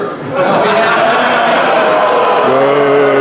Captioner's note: crowd laughing; crowd booing